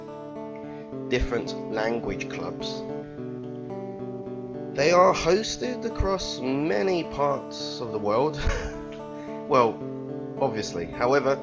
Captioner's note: chuckle